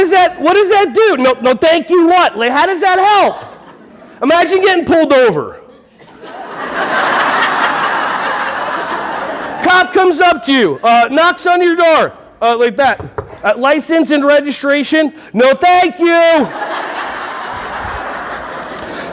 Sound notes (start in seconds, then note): 5.6 audience laughing; 16.4 audience laughing